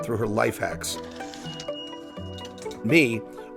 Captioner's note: turnstile beeps